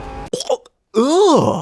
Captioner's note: gag